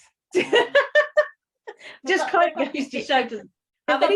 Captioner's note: laughing